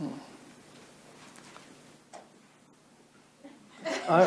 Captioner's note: crowd laughs